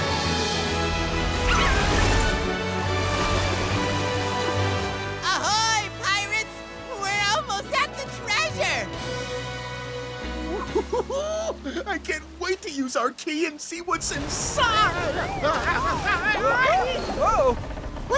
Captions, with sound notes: Ahoy, pirates! We're almost at the treasure! Ooh-hoo-hoo! I can't wait to use our key and see what's inside. [yelping] Whoa-oh... whoa!!